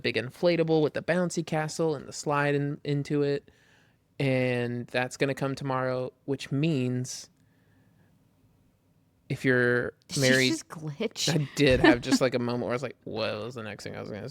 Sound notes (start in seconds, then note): 11.6 laughs